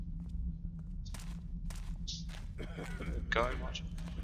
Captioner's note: Footsteps, Guard coughs